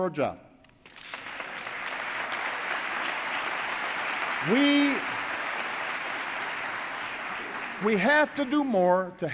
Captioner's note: applause